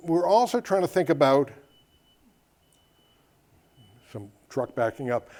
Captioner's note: beeping in the background